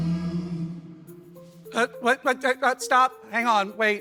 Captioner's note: stammers